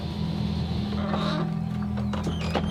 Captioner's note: doors creak; doors clatter shut